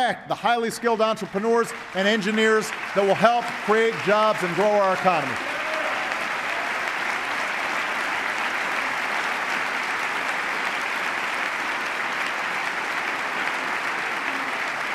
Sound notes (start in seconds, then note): 12.1 applause